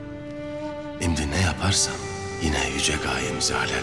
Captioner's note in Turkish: Ertuğrul iç ses